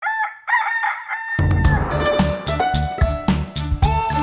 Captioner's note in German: Hahn kräht; Titelmelodie